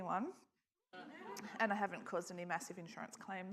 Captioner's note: audience laughs